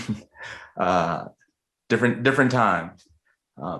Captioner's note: laughing